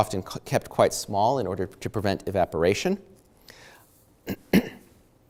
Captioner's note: clears throat